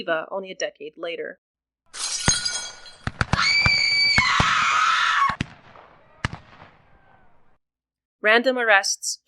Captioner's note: sounds of screams, gunfire, and chaos